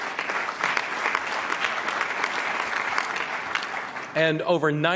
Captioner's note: applause